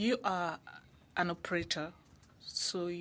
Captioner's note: speaking French